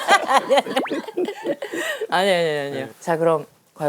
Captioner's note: chuckle